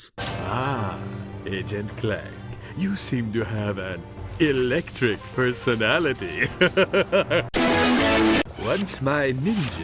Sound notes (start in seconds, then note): 6.3 starts laughing